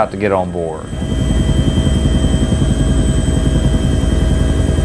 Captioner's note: helicopter flying